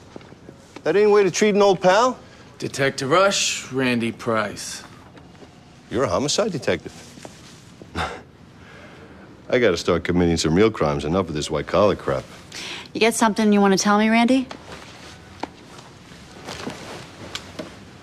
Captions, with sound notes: That any way to treat an old pal? Detective Rush, Randy Price. You're a homicide detective? [chuckles] I gotta start committing some real crimes enough with this white collar crap. You got something you wanna tell me, Randy?